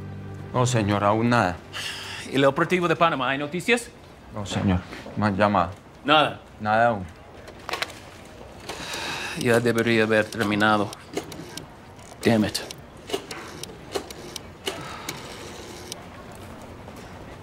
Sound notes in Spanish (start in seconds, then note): 13.0 Sonido al discar